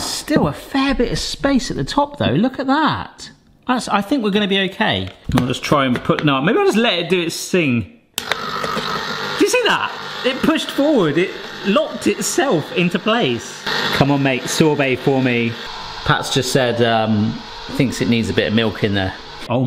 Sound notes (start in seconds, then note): 8.2 ice cream maker whirring